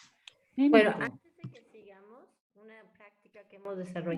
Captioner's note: speaking spanish